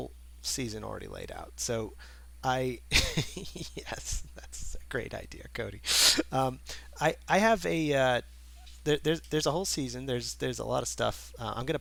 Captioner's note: laughing